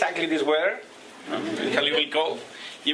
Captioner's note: laughter